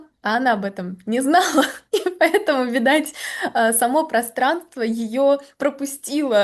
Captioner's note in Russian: смех